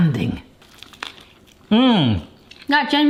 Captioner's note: tortilla crunching